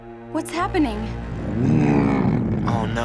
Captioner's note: growling